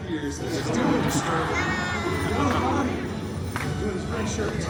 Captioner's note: guests laughing